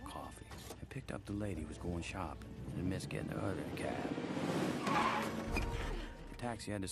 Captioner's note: car screeches to a stop